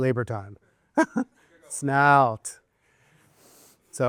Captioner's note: laughs